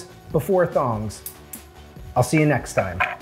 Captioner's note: tongs clicking; knife scraping